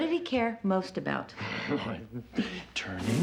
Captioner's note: chuckling